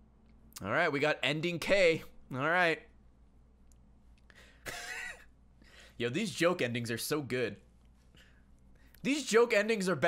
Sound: laughs

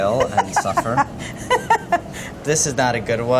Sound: laughs

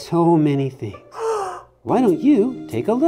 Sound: gasping

